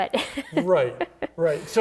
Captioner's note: laughing